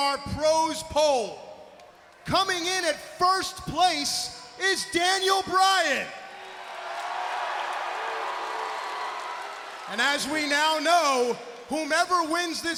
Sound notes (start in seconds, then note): 6.2 crowd cheering